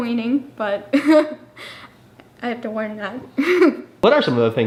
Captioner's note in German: lacht